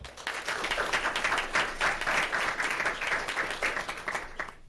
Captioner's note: audience clapping